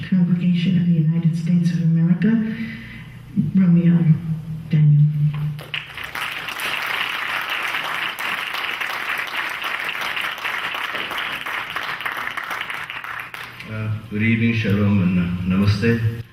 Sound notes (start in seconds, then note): 5.6 clapping